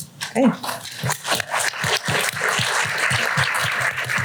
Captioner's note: applause